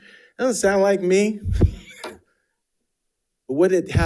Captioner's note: chuckles